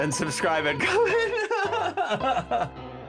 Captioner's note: laughing